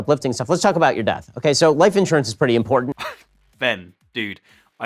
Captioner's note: laughing